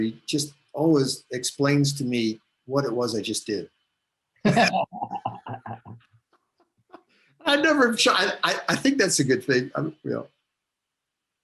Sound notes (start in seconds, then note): 4.4 both laugh